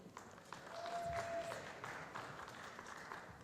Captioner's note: applause